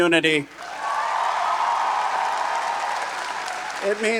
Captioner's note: audience cheering and applauding